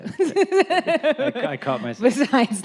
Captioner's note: laughs